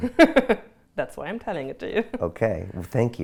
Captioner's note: laughs